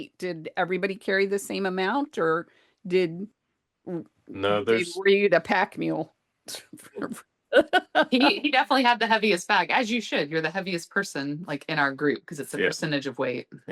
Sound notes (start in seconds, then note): 7.6 laughed